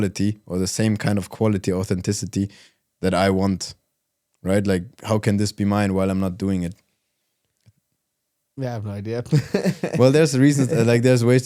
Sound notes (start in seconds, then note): 9.2 laughs